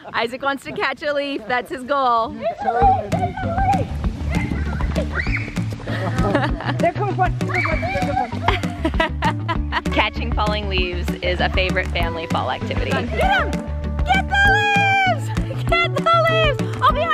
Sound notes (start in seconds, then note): 4.2 bright music; 8.0 laughs